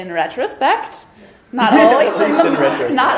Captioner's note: laughs